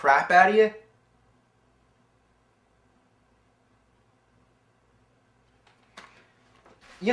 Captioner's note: silence